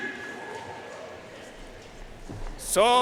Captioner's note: audience cheering and applauding